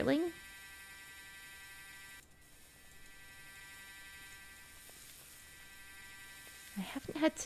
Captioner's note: mechanical drill vibrating sound